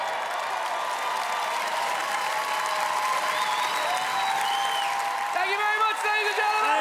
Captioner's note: super loud cheers and whoops from Audienc